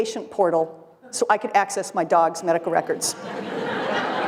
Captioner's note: laughter